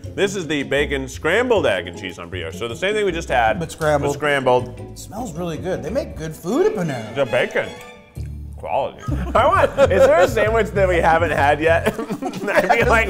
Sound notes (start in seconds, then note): 9.0 laughing